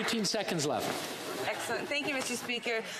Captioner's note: some Applause